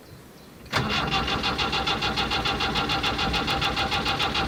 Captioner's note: engine sounds